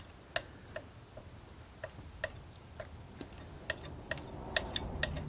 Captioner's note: tapping